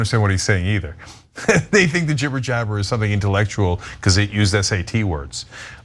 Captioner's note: laugh